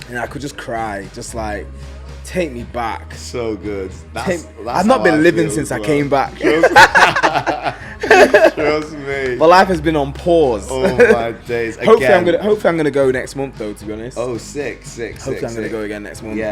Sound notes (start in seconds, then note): 6.4 laughs